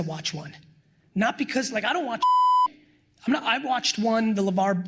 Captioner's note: beep